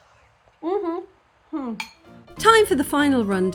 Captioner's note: happy noises